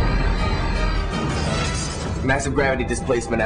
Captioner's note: explosion